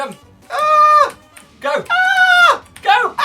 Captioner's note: higher-pitched